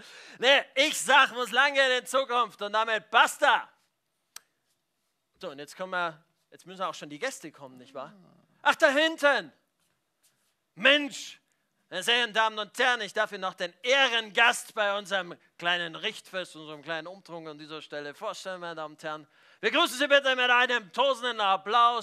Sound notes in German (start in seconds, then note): none